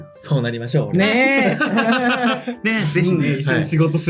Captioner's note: laugh